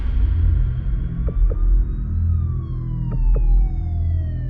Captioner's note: sirens